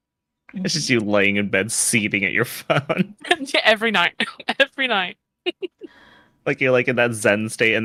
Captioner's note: laughs